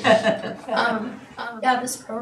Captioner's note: laughing